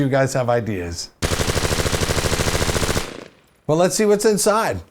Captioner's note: machine gun